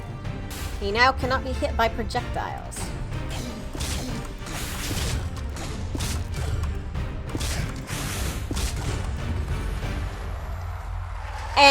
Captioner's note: audience cheers, party whistle blows